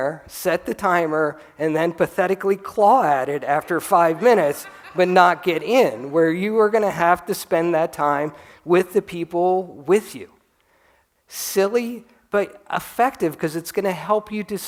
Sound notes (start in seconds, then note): 3.6 laughter